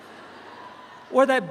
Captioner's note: audience chuckles